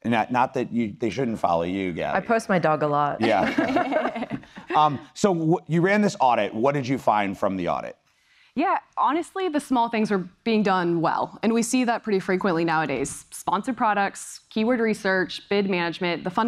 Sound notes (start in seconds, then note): 3.2 laugh